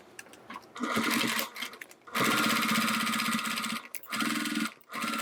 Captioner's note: sewing machine whirring